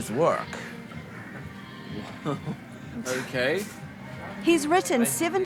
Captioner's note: laughter